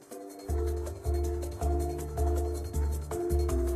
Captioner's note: sounding gavel